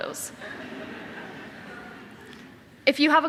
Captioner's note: audience laughing